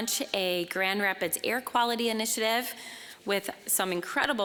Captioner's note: none